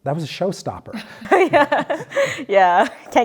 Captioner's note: laughs